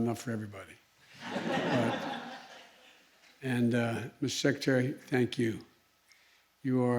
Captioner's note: laughter